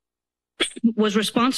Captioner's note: coughs